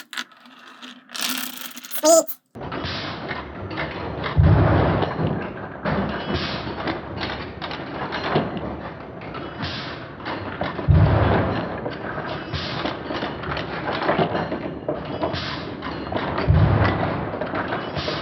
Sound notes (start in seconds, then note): 2.5 slow-mo drum hit; 2.5 slow-mo marbles rolling